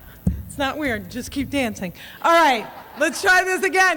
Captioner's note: audience laughs and cheers